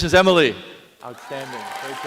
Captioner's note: applause